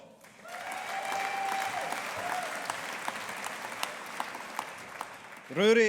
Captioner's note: audience applauding